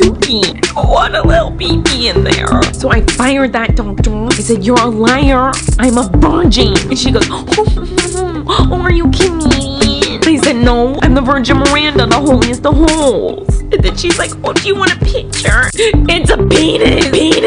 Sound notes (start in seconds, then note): 6.9 laughs